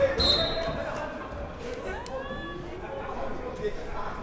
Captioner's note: whistle blows